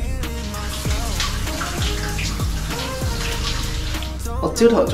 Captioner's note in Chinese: 淋浴時水落下來的聲音